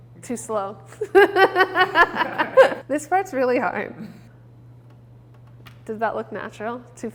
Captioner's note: laughing